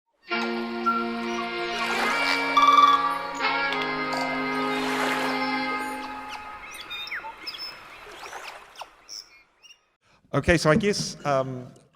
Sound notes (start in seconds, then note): 0.2 calm music; 0.7 birds chirping; 0.9 water rushing; 2.1 birds chirping